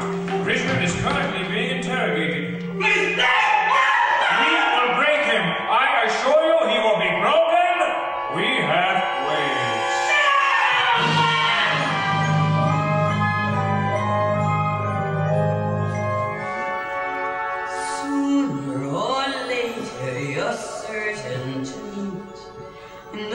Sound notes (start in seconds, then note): 2.8 VALENTIN screams